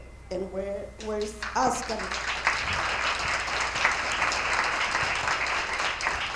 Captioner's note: attendees applauding